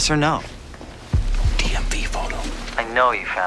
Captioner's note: whispers